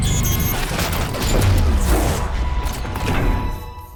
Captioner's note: fire swooshing